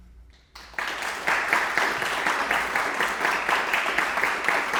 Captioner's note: audience applauding